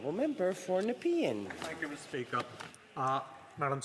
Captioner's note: speaking French